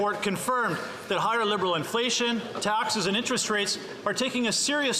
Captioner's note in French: voix de l'interprète